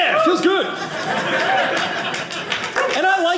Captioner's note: audience laughing